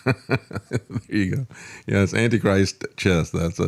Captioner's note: laughing